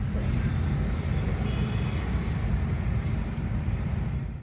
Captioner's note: traffic noise